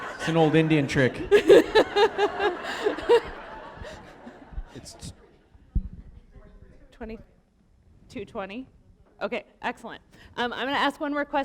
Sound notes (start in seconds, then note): 3.0 laughter